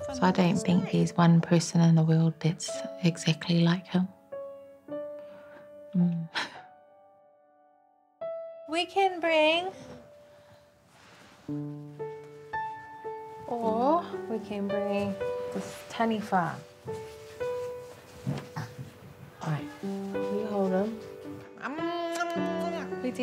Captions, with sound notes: I don't think there's one person in the world that's exactly like him. Mm. (CHUCKLES) We can bring... (GENTLE PIANO MUSIC) Or we can bring this taniwha. Ae. You hold him. Mwah-mwah-mwah!